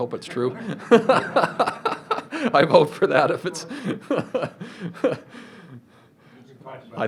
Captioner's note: laughs